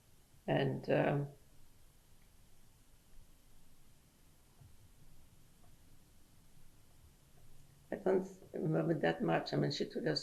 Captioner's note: pauses for 7 seconds